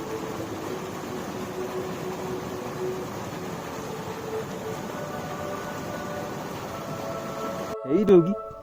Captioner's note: water gushing